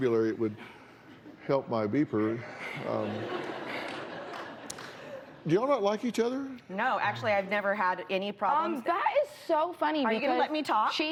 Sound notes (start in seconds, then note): 2.3 laughter